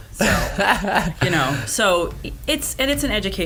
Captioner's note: laughter